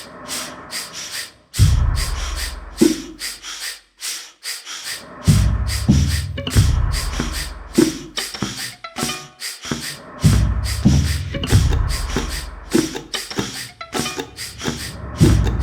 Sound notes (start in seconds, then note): 0.2 air puffing rhythmically continues; 8.1 air puffing rhythmically continues